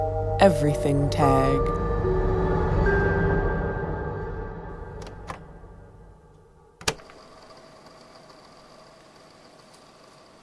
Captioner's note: click